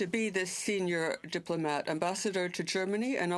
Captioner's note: speaking french